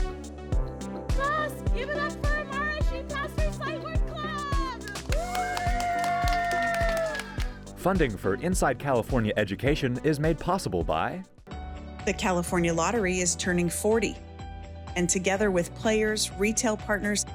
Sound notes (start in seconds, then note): 4.8 students and instructor cheering and applauding